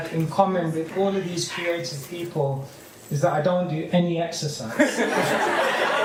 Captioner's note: laughter